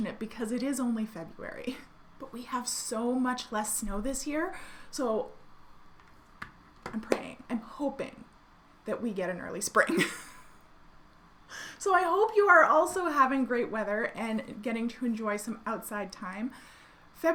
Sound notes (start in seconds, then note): 6.9 hands clapping